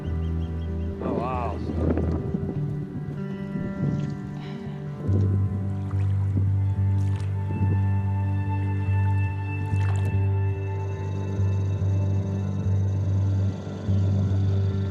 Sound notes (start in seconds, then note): 4.5 water moving; 11.4 quiet motor running